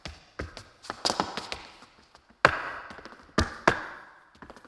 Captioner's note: shoes clacking